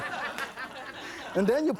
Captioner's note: audience laughs